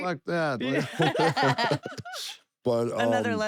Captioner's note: laugh